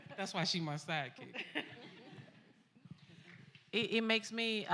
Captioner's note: laughs